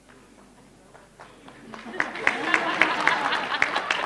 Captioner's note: laughter and applause; indistinct conversation